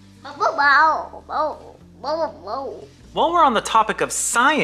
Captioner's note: boy shouting